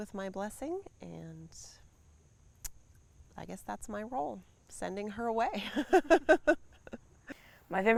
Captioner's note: laughs